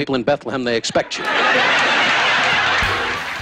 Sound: laughing

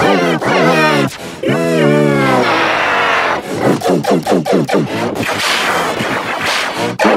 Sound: imitates jet plane diving, machine gunfire, and explosion noises

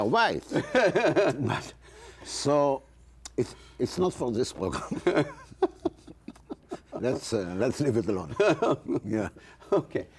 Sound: laughs; laughs

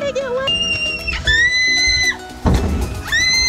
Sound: screaming

